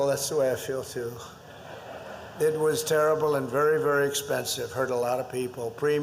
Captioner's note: laughter